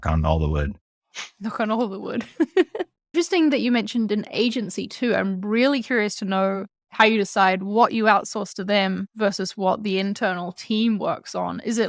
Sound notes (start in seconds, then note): 2.8 laugh